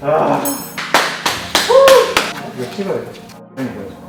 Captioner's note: clap clap clap